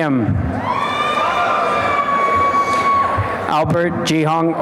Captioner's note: applause and cheering